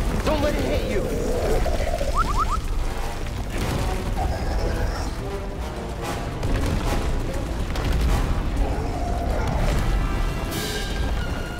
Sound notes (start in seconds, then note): 2.1 anxious beeps; 8.4 roar